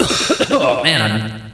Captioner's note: coughing and choking sounds